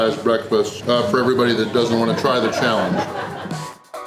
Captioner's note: crowd laughter